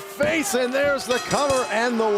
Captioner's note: bell ringing